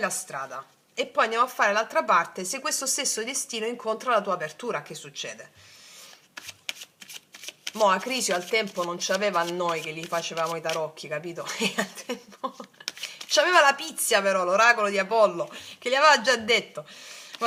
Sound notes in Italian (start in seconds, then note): 11.4 risate